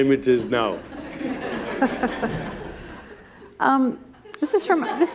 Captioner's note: laughter